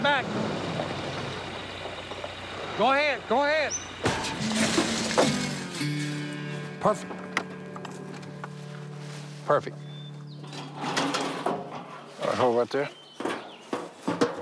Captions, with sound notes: Go ahead, go ahead! [objects clatter] Perfect. Perfect. [clanks] Hold it right there.